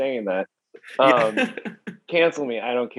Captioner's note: laughing